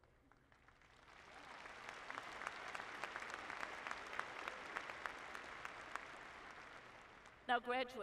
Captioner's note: applause